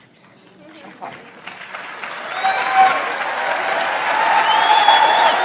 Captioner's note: audience applauds